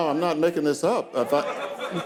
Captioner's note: audience laughing